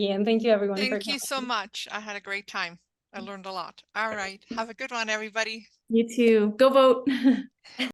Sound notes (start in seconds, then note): 7.1 laughter